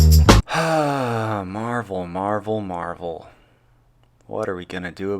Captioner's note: sigh